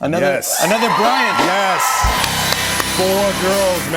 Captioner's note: cheers and applause